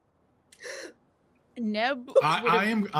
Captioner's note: gasps